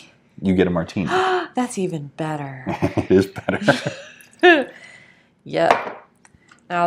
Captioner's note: gasp